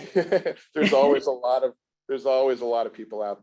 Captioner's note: laughs